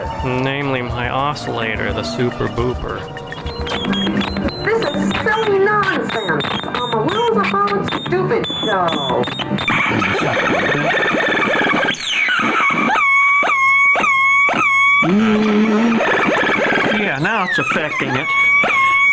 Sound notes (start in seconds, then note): 3.8 machine beeping, feedback; 9.7 machine beeping, feedback; 13.0 siren sounds